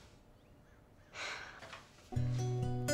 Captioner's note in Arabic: تنهد; موسيقى الجيتار الناعمة